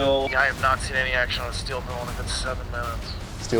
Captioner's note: voiceover